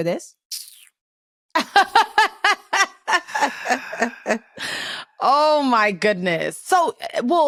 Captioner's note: laughs